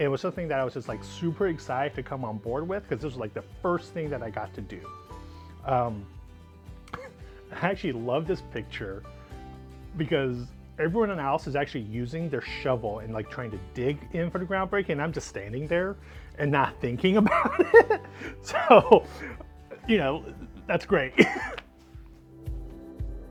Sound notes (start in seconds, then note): 19.2 chuckles